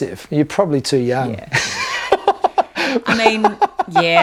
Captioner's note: laughs